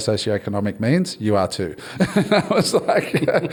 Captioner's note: all laugh